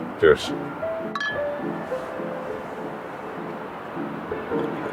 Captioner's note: traffic whooshing; bottles clinking